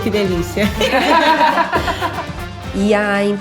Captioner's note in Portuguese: risos